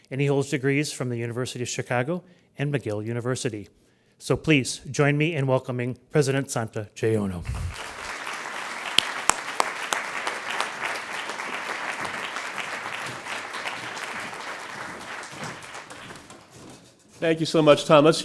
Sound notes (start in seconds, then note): 8.0 crowd applauds